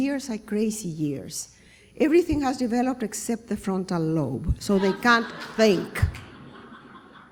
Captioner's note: laughter